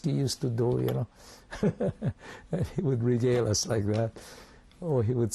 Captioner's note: laughs